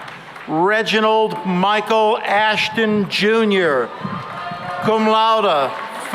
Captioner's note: cheering and applause